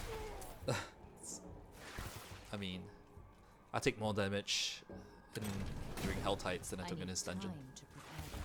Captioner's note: chuckle